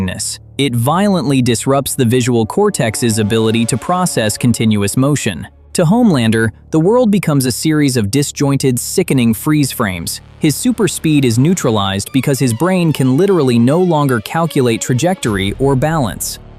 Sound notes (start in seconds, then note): 7.3 thoughtful